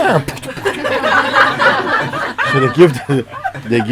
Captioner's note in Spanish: Risas